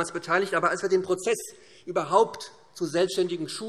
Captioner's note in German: none